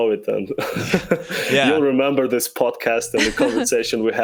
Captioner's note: laughs